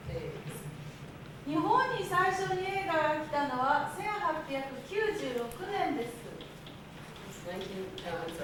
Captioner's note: speaking Japanes